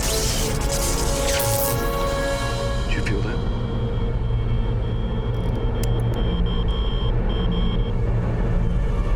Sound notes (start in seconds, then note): 4.8 beeping continues; 5.9 beeping grows louder